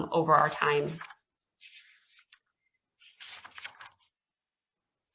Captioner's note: pages rustling